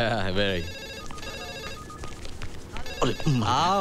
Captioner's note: Phone rings